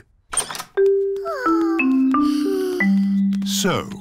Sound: peppa and george sigh

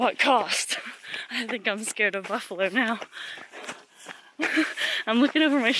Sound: laughs

